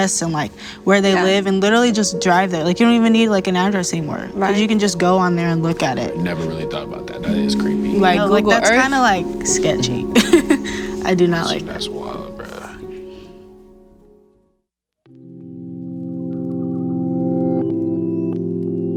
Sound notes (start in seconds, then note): 9.5 laughs; 15.4 soft electronic tones